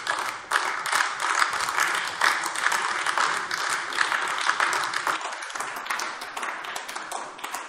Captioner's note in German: Beifall AfD